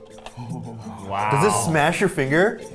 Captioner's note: teeth clicking; exclaiming; exhaling